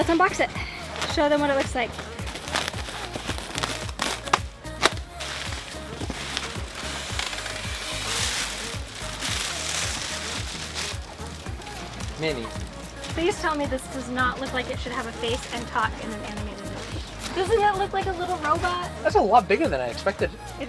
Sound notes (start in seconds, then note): 2.7 mellow music; 2.7 paper rustling